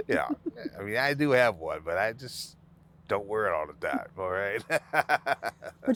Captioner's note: laughing